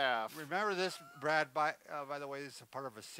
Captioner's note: laughs